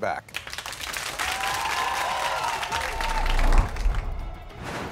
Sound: audience cheering and clapping

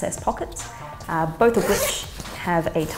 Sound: zipper buzzing

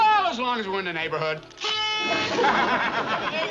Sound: party horn blows; laughs

